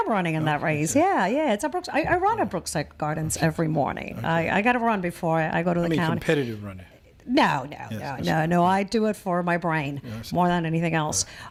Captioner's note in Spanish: Habla en ingl\s